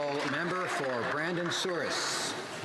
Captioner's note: some Applause